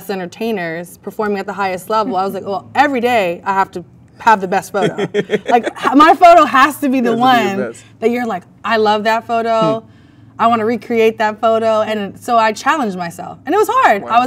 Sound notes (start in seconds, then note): 4.7 man laughs